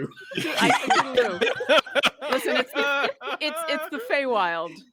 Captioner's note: group laughs